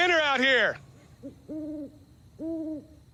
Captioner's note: owl hooting